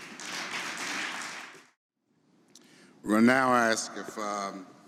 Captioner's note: audience applauding